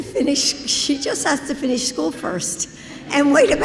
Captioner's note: laughter